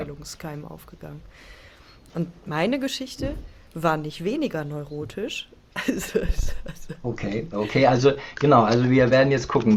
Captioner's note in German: gelächter